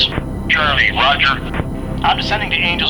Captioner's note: voiceover